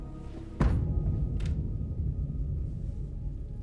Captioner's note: loud banging